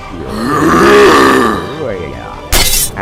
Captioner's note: both opponents make clash noises